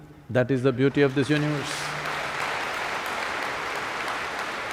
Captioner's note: applause